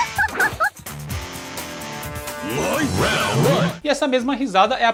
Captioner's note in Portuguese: risadas